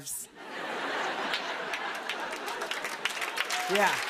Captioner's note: laughter; applause